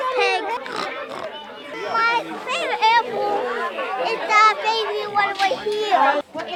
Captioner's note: mimics pig noises